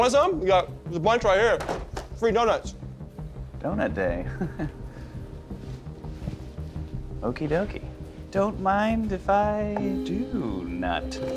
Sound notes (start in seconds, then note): 4.2 chuckles